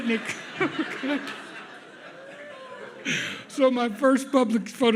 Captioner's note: audience laughs